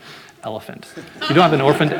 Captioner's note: audience laughing